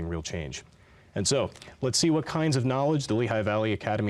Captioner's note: none